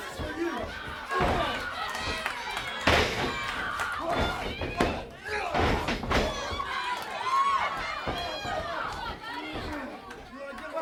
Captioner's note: crowd chatter